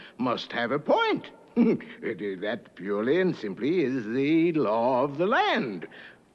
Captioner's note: laughs